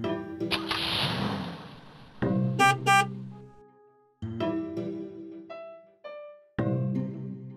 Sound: car starts and honks horn

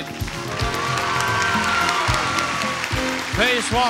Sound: audience applauds

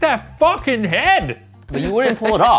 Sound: laughter

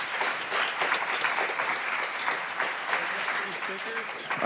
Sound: applause

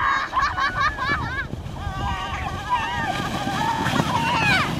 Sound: kids laughing

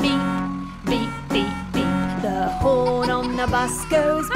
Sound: bus horn honking

